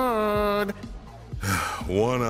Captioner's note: sigh